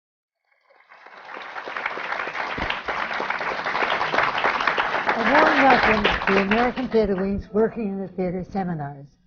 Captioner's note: applause